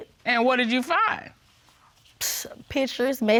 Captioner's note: exhales